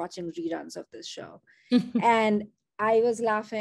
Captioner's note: chuckles